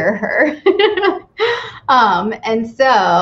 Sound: laughs

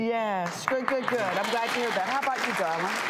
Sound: applause

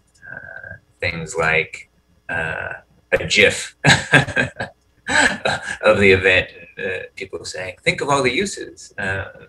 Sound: laughter

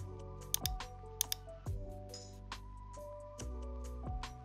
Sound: mouse clicking

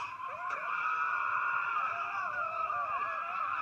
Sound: Dizzy screaming

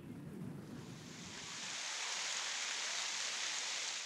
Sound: water falling

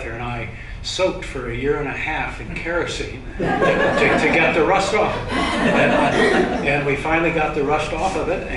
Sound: laughter

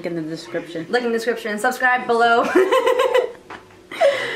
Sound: laughs

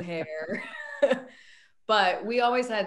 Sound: all laugh

